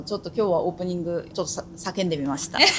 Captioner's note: laughs